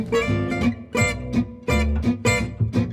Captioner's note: none